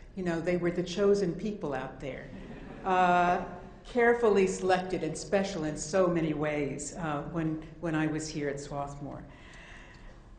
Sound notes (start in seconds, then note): 2.4 audience laughing